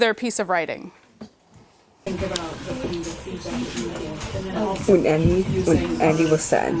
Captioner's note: overlapping chatter